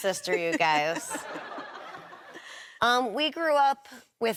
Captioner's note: laughs